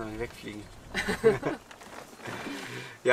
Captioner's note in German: beide lachen